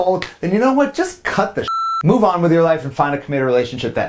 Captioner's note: beep